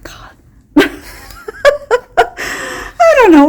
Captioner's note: laughing